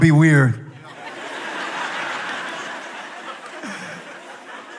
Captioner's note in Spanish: Risas